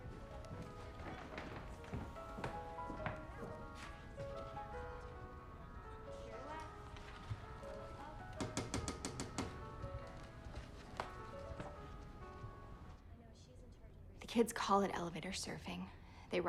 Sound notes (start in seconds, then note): 8.3 door knocking; 10.9 lively piano music